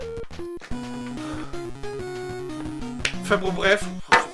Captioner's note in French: Soupir